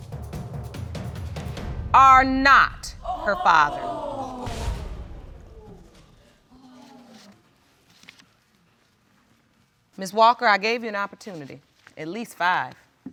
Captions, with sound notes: ...are not her father. (AUDIENCE GASPING) Ms. Walker, I gave you an opportunity. At least five.